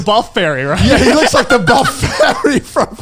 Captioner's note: laughs